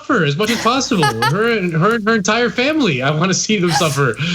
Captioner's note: laugh